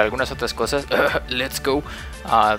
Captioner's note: cough cough